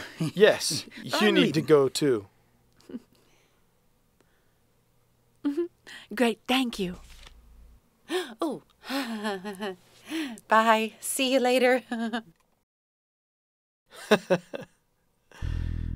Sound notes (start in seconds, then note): 14.1 laughing